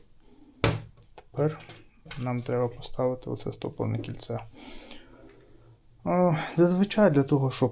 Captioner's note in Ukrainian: сопіння